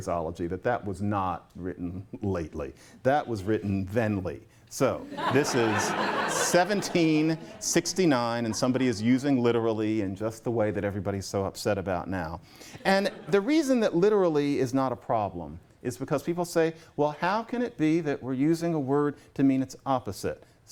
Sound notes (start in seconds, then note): 5.0 laughter